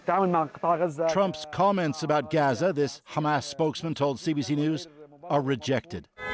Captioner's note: speaking alternate language